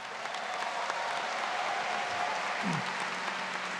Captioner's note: audience clapping